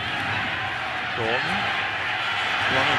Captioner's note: cheering